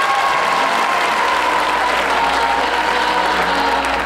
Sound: applause

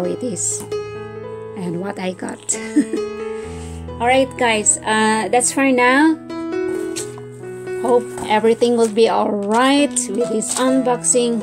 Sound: laughs

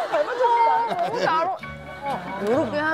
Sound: laughing

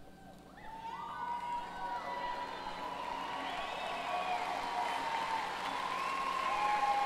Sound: applause

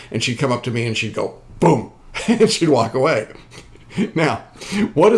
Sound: laughing

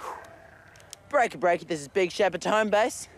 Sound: exhales

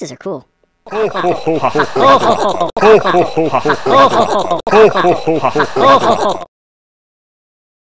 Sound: many faces laughing

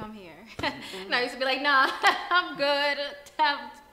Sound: she laughs

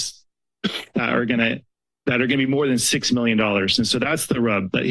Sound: coughs

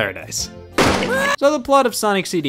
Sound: gunshot bird screams

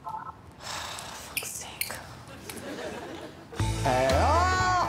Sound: Fern sighs

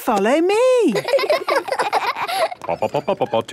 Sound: children laughing; sing-song voice

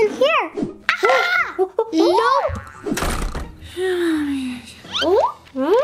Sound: monkey screeching

